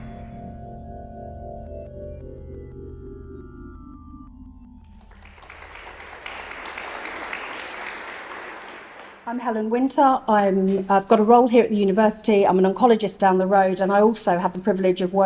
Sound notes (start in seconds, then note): 4.8 applause